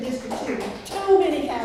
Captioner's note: clapping